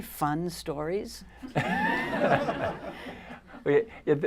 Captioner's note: laughter